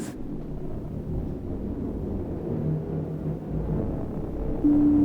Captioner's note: wind whooshes